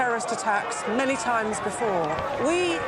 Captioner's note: sirens wailing